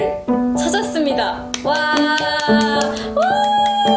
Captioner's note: clap clap